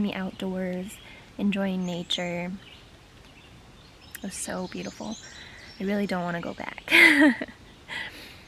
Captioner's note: laughs